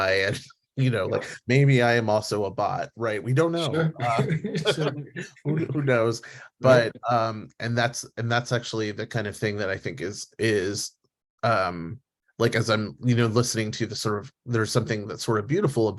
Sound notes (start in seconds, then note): 3.6 laughs